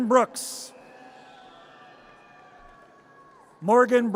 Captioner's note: audience cheers